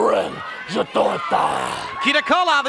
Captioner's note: speaks in foreign language